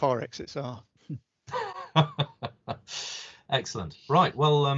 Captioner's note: laughs